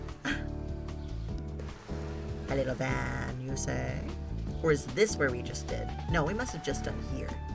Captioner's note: gasps